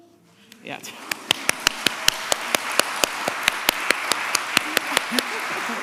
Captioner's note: applause